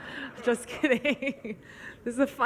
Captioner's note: laughs